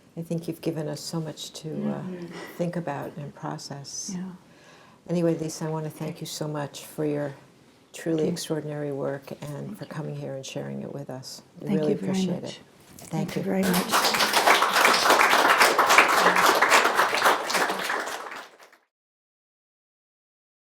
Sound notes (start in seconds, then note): 13.2 applause